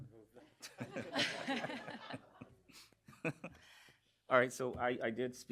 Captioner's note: laughter